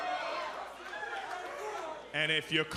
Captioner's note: cheers & applause